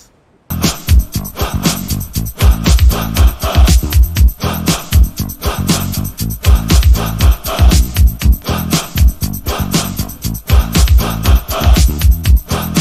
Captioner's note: voiceover